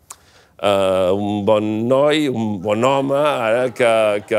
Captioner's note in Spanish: risas